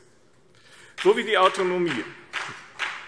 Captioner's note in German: Beifall BÜNDNIS 90/DIE GRÜNEN